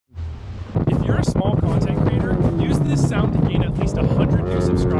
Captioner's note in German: Podcast läuft im Hintergrund